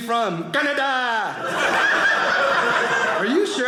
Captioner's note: audience laughing